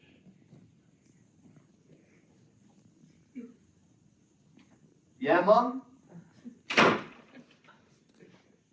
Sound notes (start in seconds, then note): 6.7 door slam